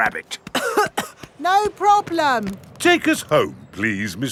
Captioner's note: coughing